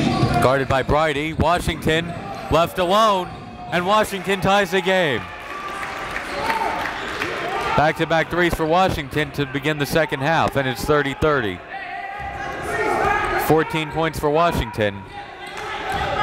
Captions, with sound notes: Guarded by Brydie, Washington left alone. And Washington ties the game. (applauding) Back-to-back threes for Washington to begin the second half and it's 30-30. (players and coaches yelling) 14 points for Washington.